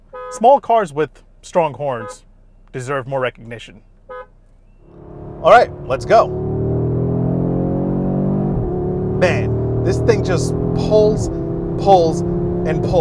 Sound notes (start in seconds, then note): 0.0 car horn honking; 4.0 car horn honking; 6.9 engine revving